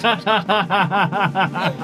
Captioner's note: laughs